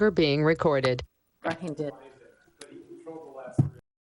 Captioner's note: people chatter